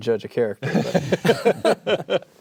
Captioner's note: laughter